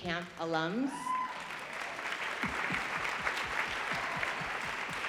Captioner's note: audience applauding